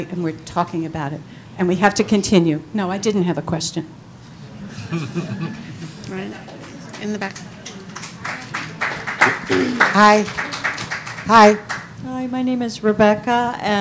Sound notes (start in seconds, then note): 8.3 audience applauding